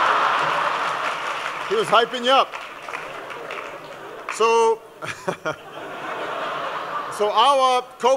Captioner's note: laughing